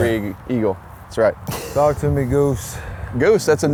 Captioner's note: laughs